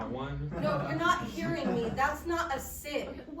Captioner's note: audience laughs